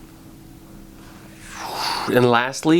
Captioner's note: another flight noise